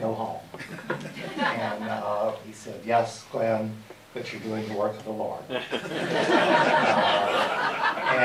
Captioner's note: laughter